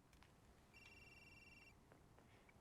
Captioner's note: line ringing